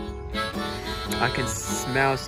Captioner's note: deep Breath In